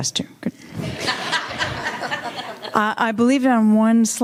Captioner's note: audience laughing